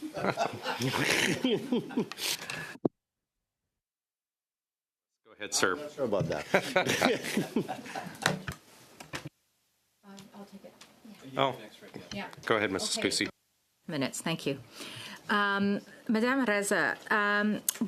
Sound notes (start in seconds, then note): 8.2 laughter